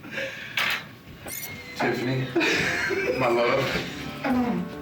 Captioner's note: laughs